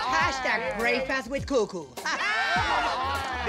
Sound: laughter

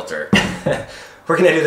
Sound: laughs

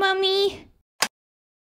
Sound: click!

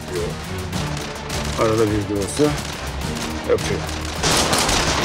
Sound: lightning

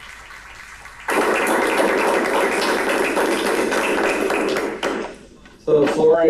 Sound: applause

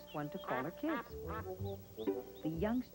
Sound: quacking

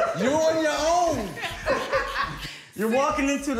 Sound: laughter

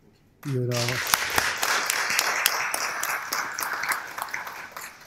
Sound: applause

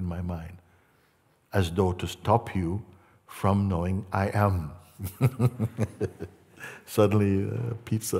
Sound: Mooji laughs

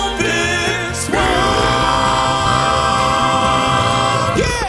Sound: demonic burp

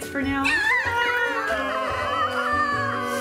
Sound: sobbing

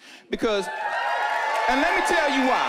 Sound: whooping

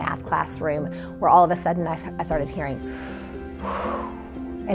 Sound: inhales

